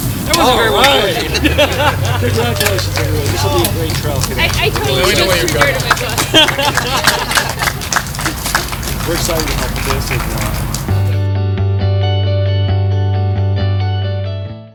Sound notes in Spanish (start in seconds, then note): 2.5 aplausos